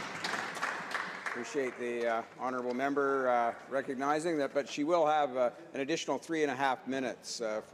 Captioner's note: applause